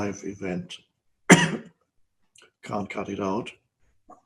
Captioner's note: coughs